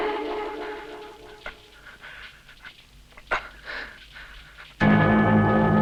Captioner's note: bandit gasping; tense music continues